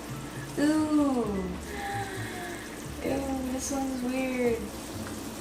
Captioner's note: gasps; slurps